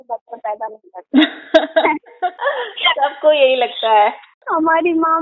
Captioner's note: laughs